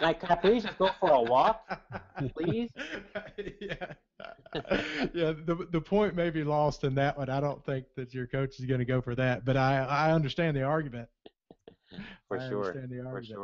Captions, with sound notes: I'm like, Mike, can I please go for a walk, please. - [Voiceover] (chuckles) Yes, the point may be lost in that one, I don't think that your coach is gonna go for that but I understand the argument. - For sure.